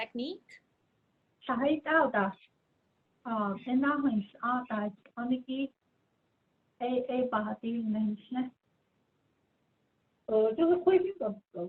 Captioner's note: speaking in Diné